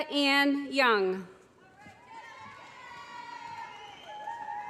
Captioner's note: cheers